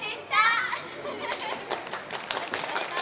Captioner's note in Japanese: 拍手